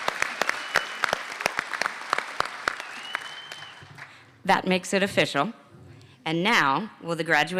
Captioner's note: applause